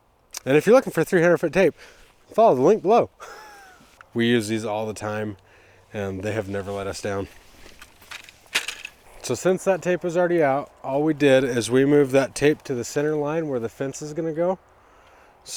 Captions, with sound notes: And if you're looking for 300-foot tape, follow the link below. (laughs) We use these all the time and they have never let us down. So since that tape was already out, all we did is we moved that tape to the center line where the fence is gonna go.